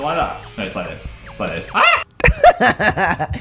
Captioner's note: screams; laughter